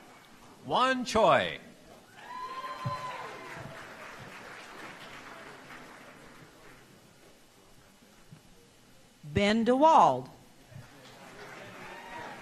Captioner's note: applause